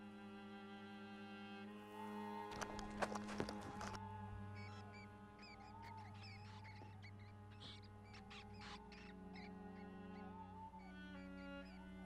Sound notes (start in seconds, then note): 4.6 pensive music; 5.4 rats squeaking